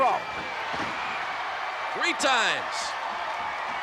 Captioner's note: applause